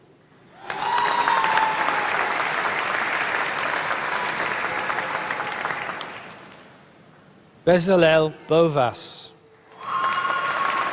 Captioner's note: applause; applause